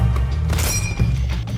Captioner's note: ping!